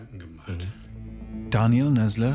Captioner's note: eerie noises